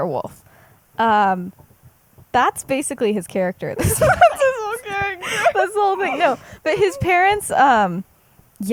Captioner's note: laughs